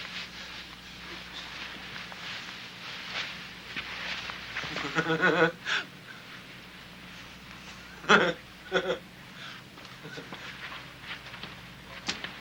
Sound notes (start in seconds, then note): 4.6 Casey laughing